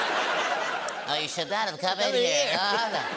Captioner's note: laughter; high-pitched voice